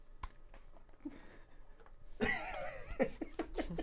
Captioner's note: laughing